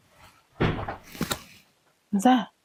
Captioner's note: thud